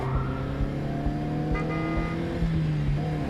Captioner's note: horn honks